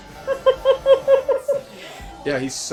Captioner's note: laughing